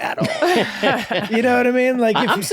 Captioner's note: laughing